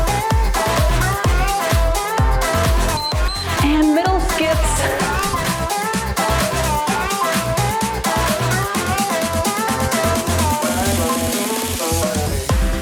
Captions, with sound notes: (timer beeps) And middle skips. (cheerful music)